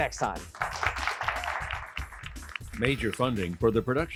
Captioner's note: applause